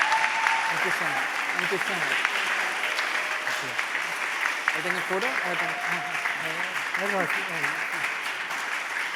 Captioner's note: background chatter; applause, cheering